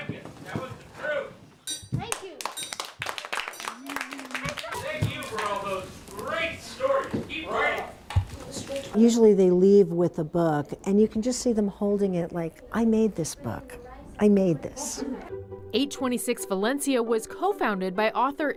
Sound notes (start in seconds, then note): 4.7 applause